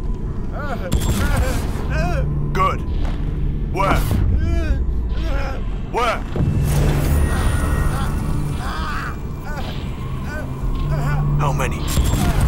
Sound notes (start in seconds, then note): 0.5 engel cries; 4.3 engel moans